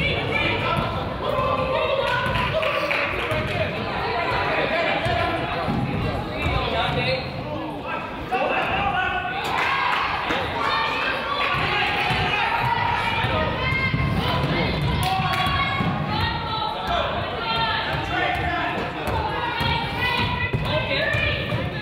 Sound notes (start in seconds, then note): 9.4 coach yells; 9.5 crowd applauds; 18.5 coach yells